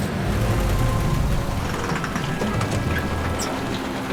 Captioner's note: car engine sputtering